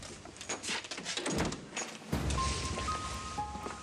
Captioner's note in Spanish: sonido al cerrar la puerta